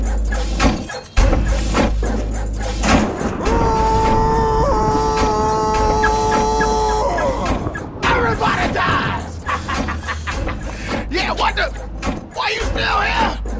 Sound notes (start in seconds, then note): 3.4 shouts; 9.1 laughs